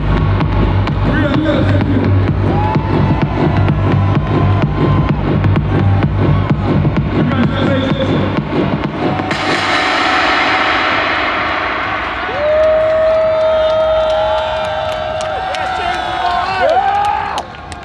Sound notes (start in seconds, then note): 2.0 crowd cheering; 11.8 upbeat house music fades out; 13.1 crowd cheering